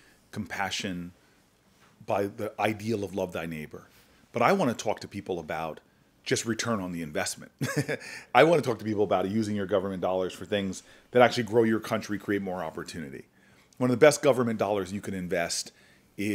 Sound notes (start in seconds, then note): 7.6 chuckles